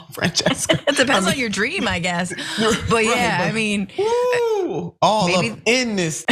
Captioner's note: laugh